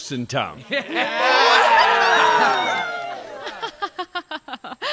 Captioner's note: jovial laughter and cheers from everyone; Gisbourne half-heartedly laughs with them